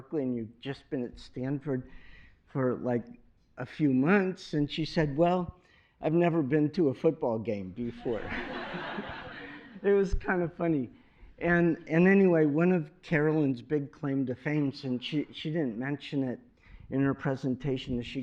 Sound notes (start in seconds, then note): 7.9 laughter